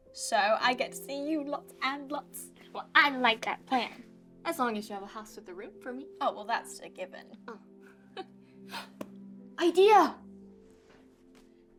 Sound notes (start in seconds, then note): 8.3 Sofia laughs